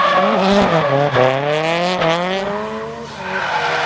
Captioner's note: tires squealing; engine revs; tires squealing